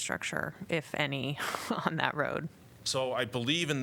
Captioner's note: laughter